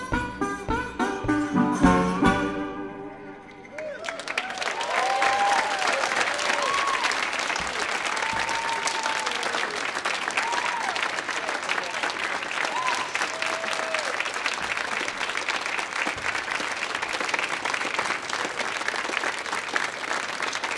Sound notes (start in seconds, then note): 0.1 bluesy guitar music ends; 4.0 audience whoops and applauds